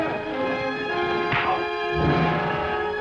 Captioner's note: smack